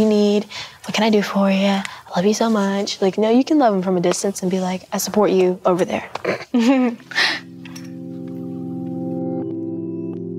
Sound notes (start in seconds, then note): 6.2 giggling; 6.5 soft music